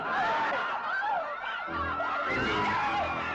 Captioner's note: exclaiming; crowd yelling